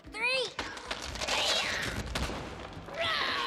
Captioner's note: splintering and cracking